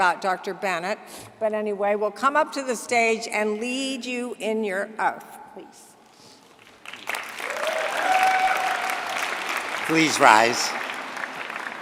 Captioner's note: applause